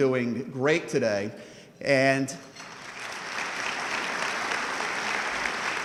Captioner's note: audience clapping